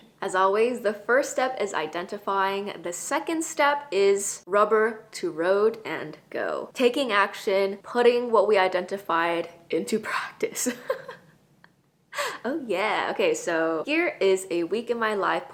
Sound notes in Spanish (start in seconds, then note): 10.6 risas